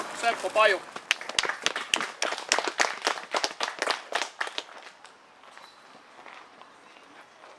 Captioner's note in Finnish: Aplodeja